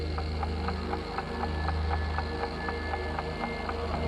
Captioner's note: clock ticking